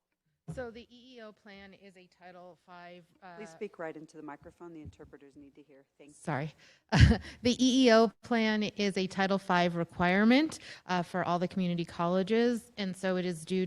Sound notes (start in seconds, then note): 6.9 chuckle